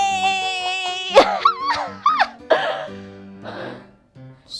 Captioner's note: squealing sounds